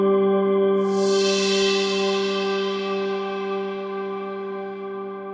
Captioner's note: magic chimes